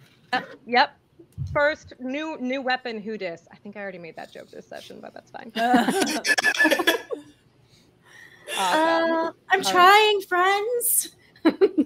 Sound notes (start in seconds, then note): 5.6 laughter